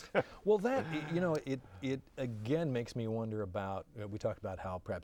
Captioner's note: laughing